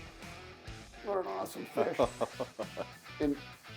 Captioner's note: chuckling